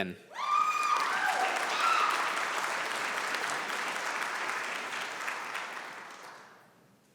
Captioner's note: applause